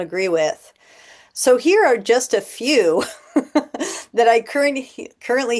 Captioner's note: laughter